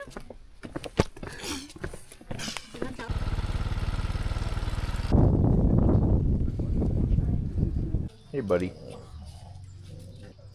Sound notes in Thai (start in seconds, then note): 0.6 เสียงฝีเท้า